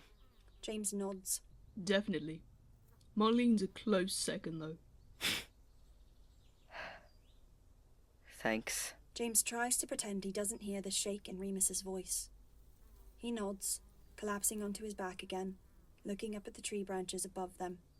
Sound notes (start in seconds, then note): 5.0 Remus snorts